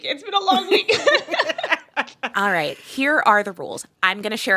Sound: laughter

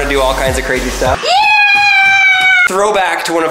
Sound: yelling

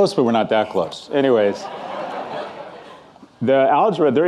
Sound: audience laughing

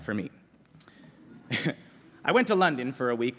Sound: laughter

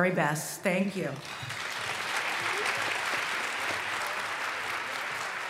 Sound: applause

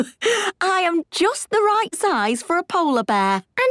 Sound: laughs

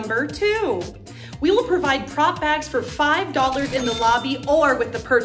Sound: cash register sound effect

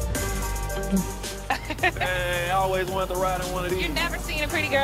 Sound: chuckles

